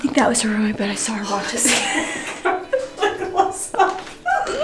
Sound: laughs; laughing

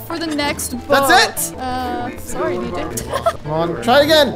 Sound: laughs

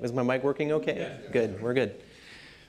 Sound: voiceover

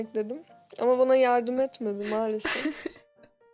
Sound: chuckles

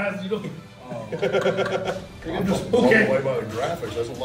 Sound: laugh

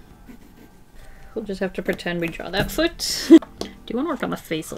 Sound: laughs

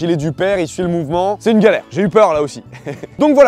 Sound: laughs

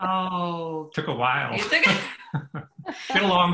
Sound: laughs

